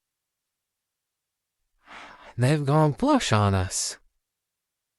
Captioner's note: sighing